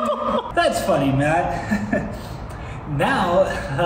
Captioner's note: chuckles